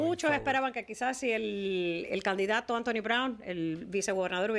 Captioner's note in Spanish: Hablando ingl\s